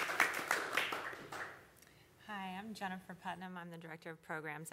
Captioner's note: applause